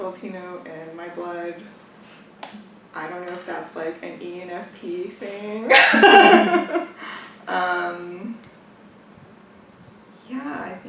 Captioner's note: laughs